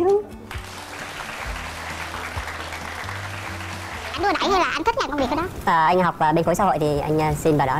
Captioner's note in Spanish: Aplaudir